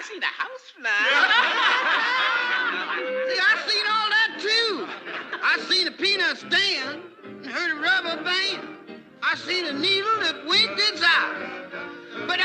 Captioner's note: laughter